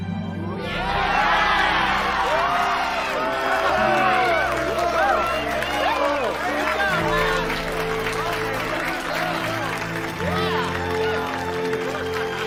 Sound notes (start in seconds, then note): 0.1 romantic music; 1.1 group cheering and clapping